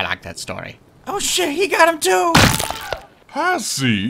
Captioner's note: squash